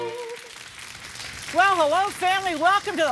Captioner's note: claps